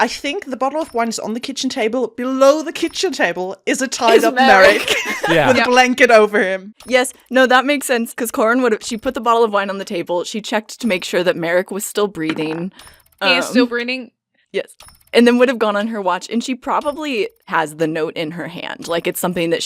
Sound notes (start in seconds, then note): 4.1 laughs; 12.2 dice clunks